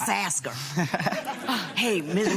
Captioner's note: laughs